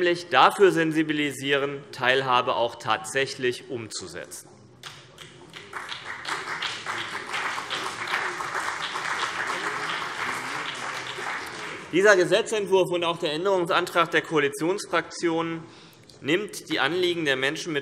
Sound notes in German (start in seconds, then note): 5.2 Beifall CDU und BÜNDNIS 90/DIE GRÜNEN